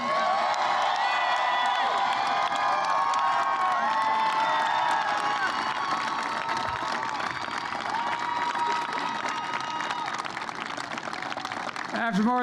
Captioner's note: applause